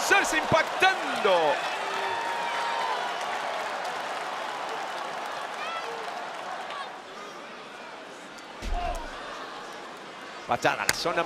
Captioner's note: applause